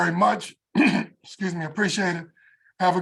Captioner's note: cough